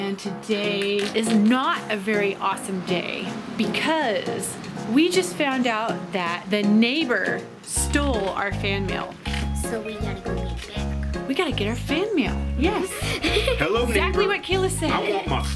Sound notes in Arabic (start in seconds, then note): 12.6 يضحك